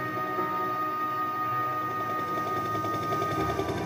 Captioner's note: το ελικόπτερο πλησιάζει